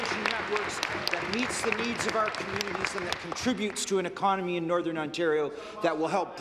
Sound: some Applause

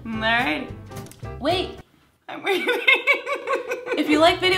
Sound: laughs

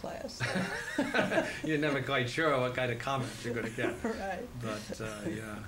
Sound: laughter

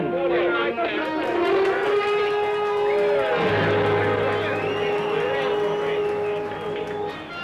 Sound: people cheering; people whistling

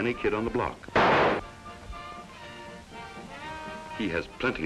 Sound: fire cracker explodes and his father yells at him

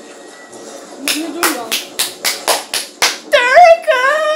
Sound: claps

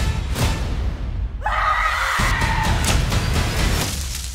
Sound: screams; falling

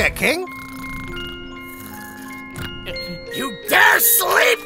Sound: snores

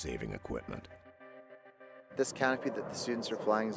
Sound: voiceover

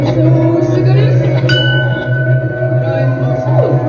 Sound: ding!

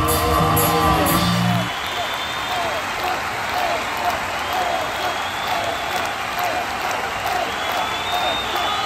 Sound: applause

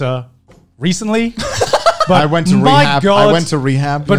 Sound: laughing

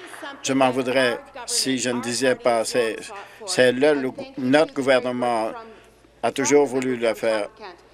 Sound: some Applause

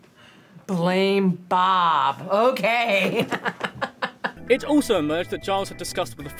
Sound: laughs

